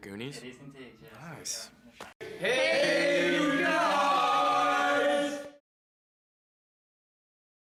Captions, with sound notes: - Is that from the Goonies? - It's indeed. - Nice. - (group shouting) HEYUGUYS